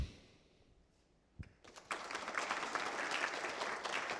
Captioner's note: applause